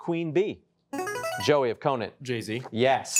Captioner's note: buzzer chimes